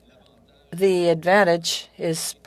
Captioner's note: speaking French